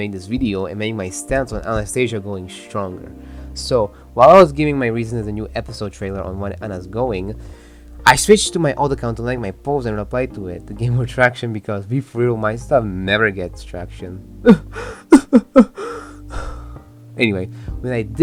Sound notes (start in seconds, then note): 14.4 sobs